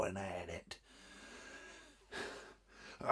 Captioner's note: sighs